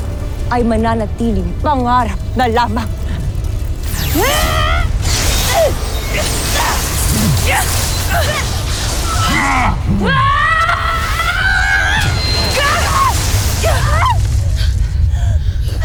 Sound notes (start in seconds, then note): 3.2 powerful blast-crackle; 3.9 growling & grunting; 9.0 screaming; 9.2 gargan growls